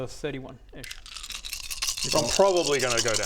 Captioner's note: death rattle